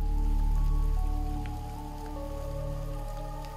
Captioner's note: rain patters softly